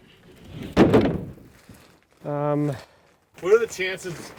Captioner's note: plywood thudding